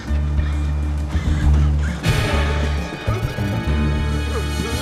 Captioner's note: Jimmy gasping; suspenseful music